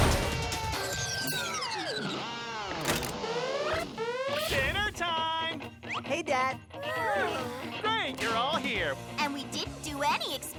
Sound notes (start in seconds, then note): 2.9 alarm blares